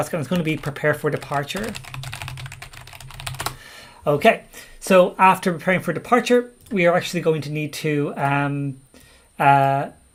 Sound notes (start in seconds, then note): 1.9 keyboard keys clank